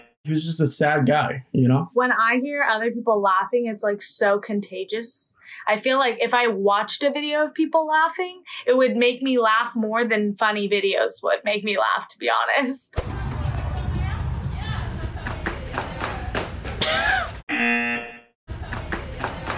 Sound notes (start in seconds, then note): 16.8 laughs; 17.0 buzzer rings